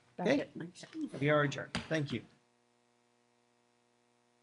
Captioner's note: gavel